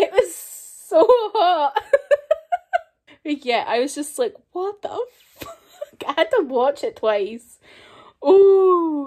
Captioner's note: lots of embarrassed giggling